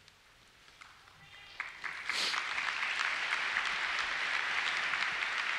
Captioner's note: applause